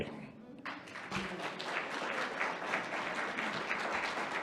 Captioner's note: audience applauding